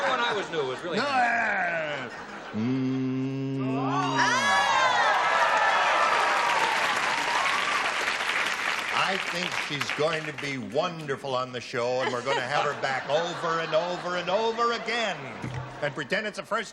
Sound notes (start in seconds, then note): 3.8 cheering